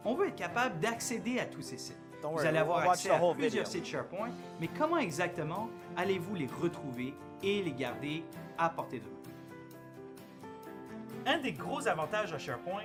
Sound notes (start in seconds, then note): 2.2 speaking in french